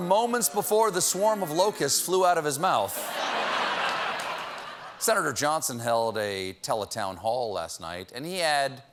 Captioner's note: laughter